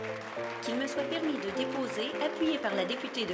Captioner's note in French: Applaudissements